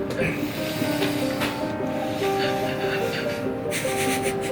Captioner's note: heavy breathing